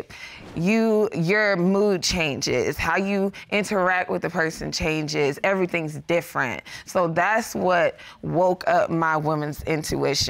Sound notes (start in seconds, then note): none